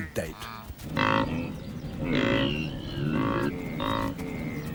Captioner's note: braying